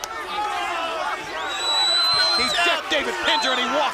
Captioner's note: crowd chatter